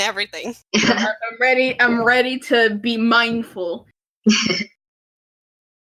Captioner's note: laugh